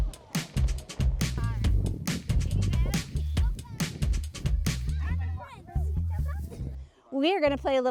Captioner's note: chatter